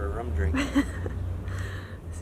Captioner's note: laughs